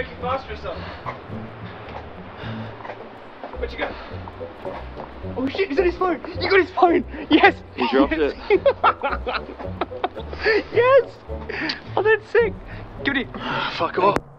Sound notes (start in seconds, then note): 8.9 Wes laughing